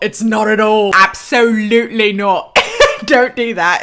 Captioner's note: laughs